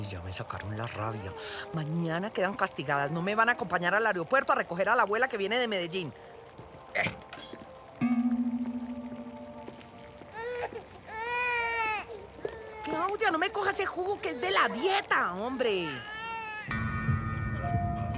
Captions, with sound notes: You drive me crazy! Tomorrow, as punishment, neither of you will come with me to the airport to pick up your grandmother who is coming from Medellin! [baby crying] Claudia! Don't drink that juice, it's for my diet!